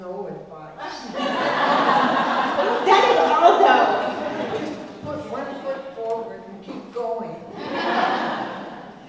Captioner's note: laugh; laugh